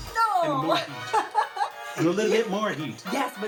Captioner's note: laughs